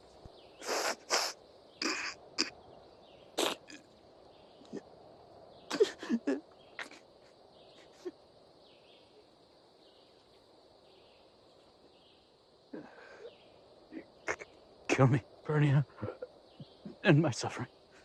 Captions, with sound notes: [sniffling and choking] [sniffling] Kill me, Pernia. End my suffering.